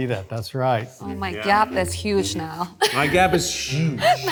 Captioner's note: laughs